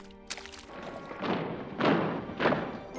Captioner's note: heavy footsteps approaching